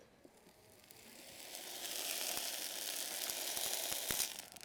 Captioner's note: sizzling